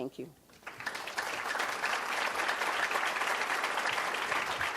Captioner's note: audience applause